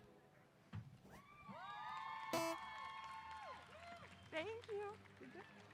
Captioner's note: audience applause